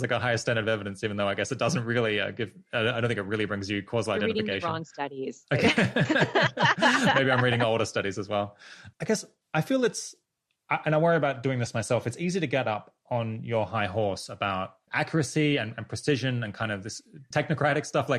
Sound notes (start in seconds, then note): 5.5 laughter